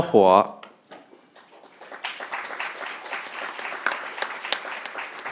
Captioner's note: crowd applauding